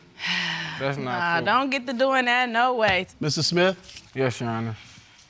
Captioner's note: sighs